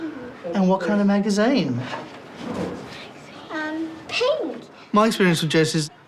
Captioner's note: child whispers